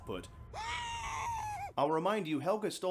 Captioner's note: screaming noises